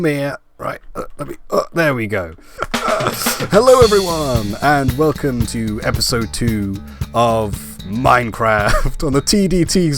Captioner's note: laugh